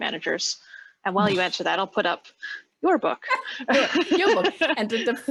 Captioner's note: laughing